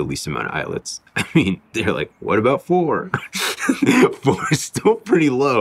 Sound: laughs

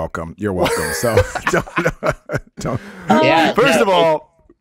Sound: Jamey and Justin laughs

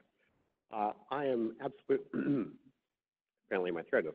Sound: clears throat

